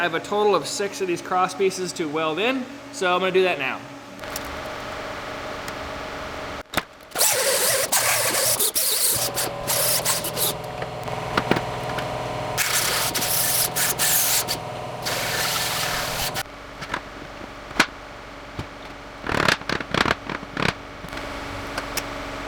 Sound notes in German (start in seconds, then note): 4.4 Maschine läuft